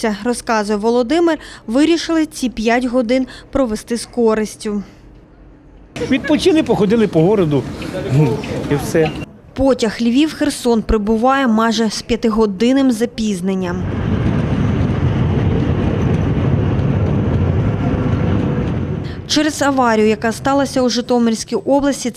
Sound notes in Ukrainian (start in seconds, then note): 13.8 звук прибуття потягу